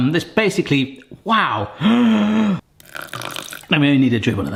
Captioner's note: gasps